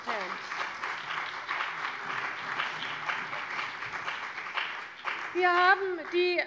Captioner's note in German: Beifall bei der CDU und dem BÜNDNIS 90/DIE GRÜNEN